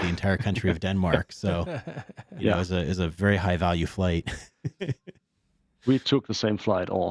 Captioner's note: laughs